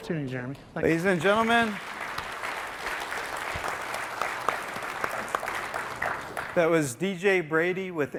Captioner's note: applause